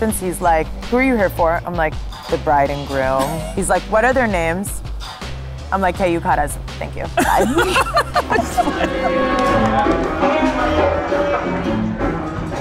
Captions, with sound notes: He's like, "Who are you here for?" I'm like, "The bride and groom." He's like, "What are their names?" I'm like, "K, you caught us, thank you, bye." (laughing) (upbeat music)